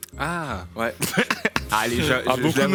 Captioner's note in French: rires